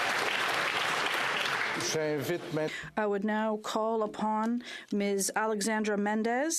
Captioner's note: applause; speaking French